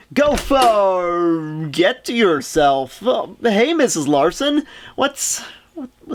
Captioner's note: door opens